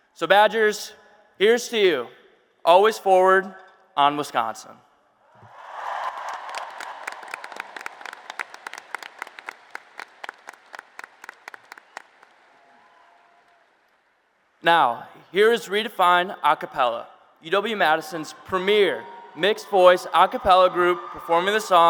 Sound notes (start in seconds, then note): 5.4 applause and Cheers